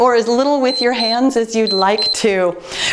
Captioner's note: timer beeps